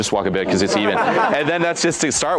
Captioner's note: men chuckling